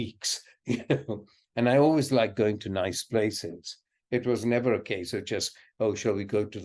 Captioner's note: laughs